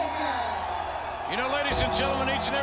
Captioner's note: troops cheer